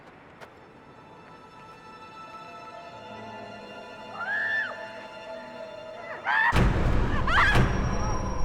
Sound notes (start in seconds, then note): 0.5 tense music; 4.2 woman screaming